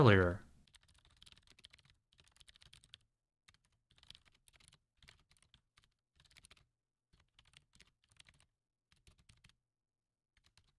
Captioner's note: typing